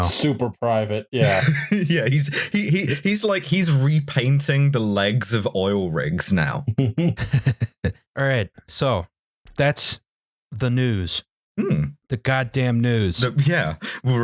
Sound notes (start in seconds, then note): 1.2 laughs; 6.4 chuckles